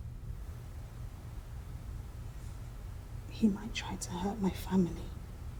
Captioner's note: none